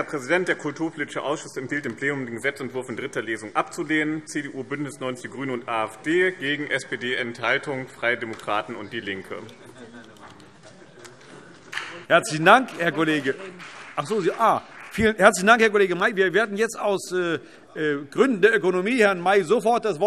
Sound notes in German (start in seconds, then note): 10.0 Beifall BÜNDNIS 90/DIE GRÜNEN